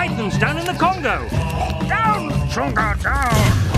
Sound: choking

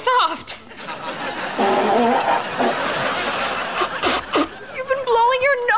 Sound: blowing nose

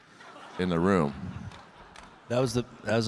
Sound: audience laughing

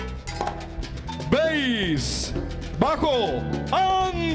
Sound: speaking Spanish

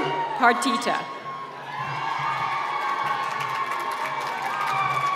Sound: cheers and applause

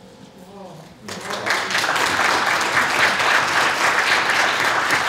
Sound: audience applauds

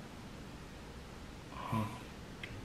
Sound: mmm

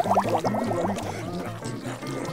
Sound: munching

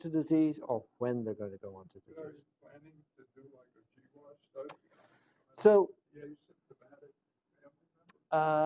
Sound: off microphone

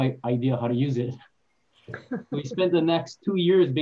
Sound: laughs

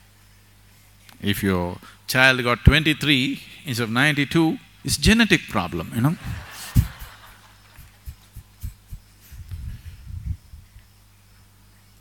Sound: laughter

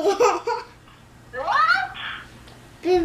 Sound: laughs

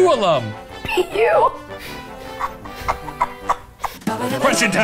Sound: laughs

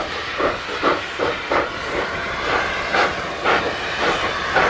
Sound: hard chugging

